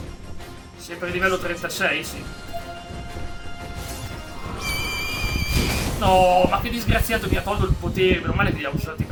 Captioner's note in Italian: urlo